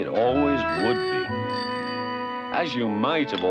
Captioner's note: bicycle bell ringing